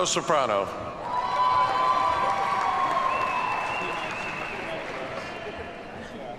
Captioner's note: audience cheers and applauds